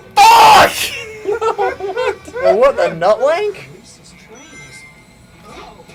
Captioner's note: laugh